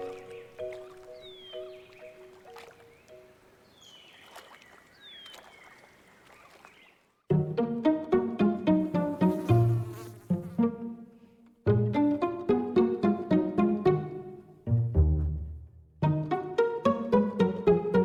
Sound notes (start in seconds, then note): 7.3 upbeat classical music; 8.7 dragonfly buzzes